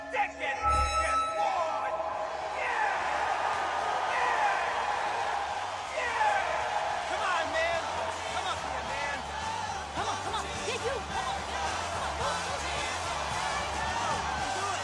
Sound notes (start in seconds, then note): 0.5 microphone squealing; 4.9 crowd cheering